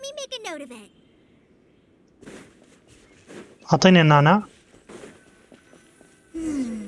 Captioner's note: footsteps